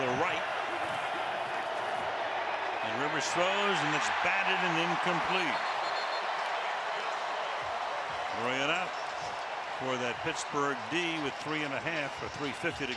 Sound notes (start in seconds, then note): 5.5 whistle blows; 7.3 cheering